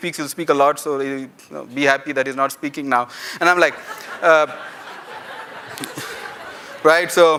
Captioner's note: laughter